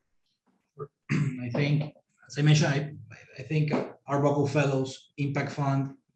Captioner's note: cough